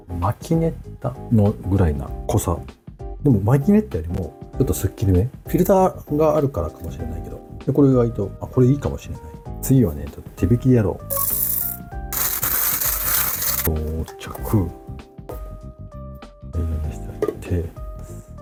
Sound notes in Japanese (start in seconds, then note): 12.1 豆を挽く音